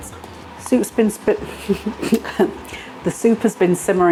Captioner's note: laugh